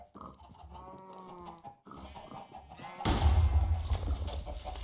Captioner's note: explodes